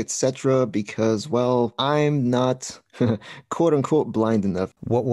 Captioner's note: slight laugh